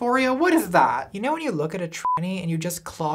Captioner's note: beep